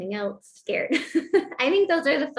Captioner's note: laughter